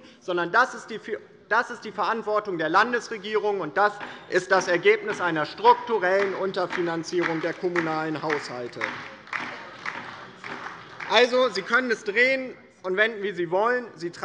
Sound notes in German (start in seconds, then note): 8.7 Beifall bei der LINKEN